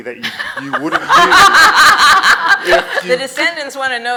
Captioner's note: audience laughs